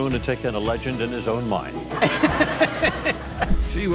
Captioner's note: host and audience laugh